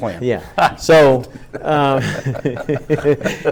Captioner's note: group laughs